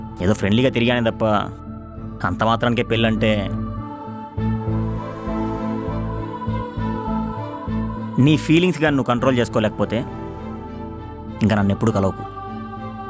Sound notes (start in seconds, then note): none